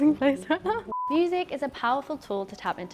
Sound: film beeping

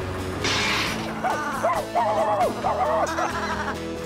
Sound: clash!; clatter!; barking; bleating

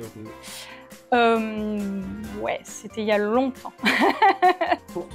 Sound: laughs

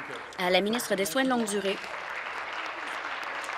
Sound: applause

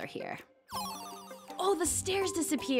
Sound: game beeping

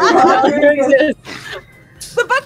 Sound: laughter

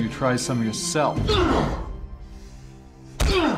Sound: groan

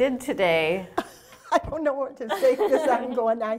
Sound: laughing

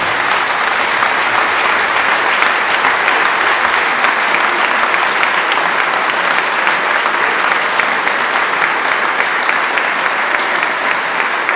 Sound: applause

